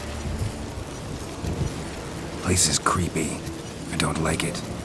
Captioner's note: none